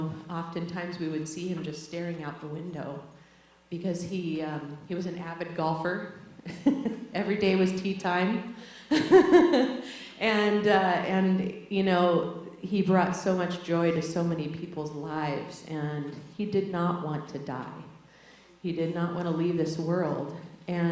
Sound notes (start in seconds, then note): 6.5 laughs; 8.9 laughs